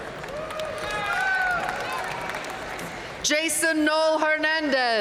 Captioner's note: audience cheering and applauding